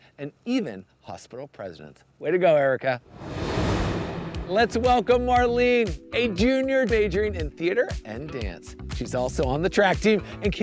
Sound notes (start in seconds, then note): 3.1 graphics whooshing